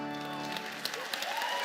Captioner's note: applause